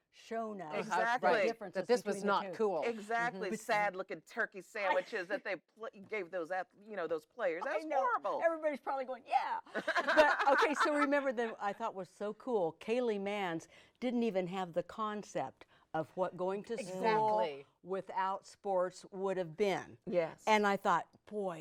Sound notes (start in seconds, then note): 11.5 laughing